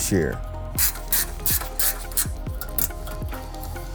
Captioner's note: ratcheting